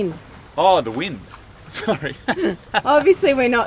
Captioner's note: laughs